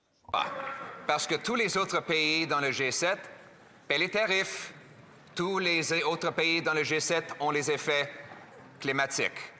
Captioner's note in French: voix de l'interprète